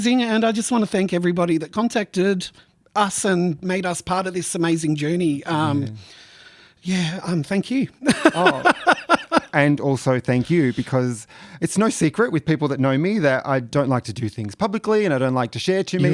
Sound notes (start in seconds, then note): 8.0 laughs